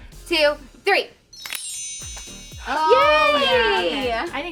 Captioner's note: shimmering bells